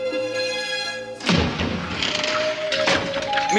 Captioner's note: door opens